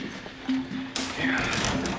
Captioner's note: sighs